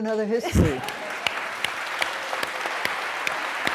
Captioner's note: applause